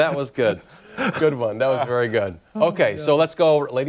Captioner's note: laughter